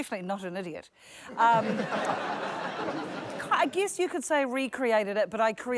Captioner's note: laughter